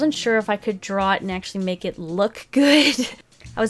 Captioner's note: laughs